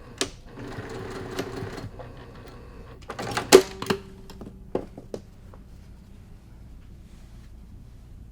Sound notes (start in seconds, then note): 0.0 machine whirring; 2.8 machine clicks